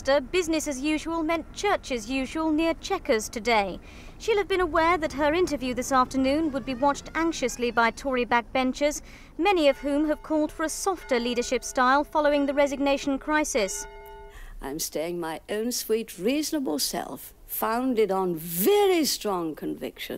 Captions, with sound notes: business as usual meant church as usual near Checkers today. She'll have been aware that her interview this afternoon would be watched anxiously by Tory back-benchers, many of whom have called for a softer leadership style following the resignation crisis. (church bell tolls) - I'm staying my own sweet, reasonable self, founded on very strong convictions.